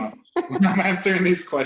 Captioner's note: laughter